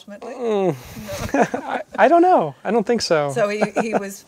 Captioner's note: groaning